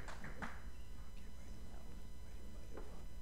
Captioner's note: applause